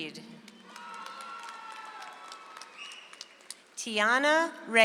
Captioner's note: audience applauds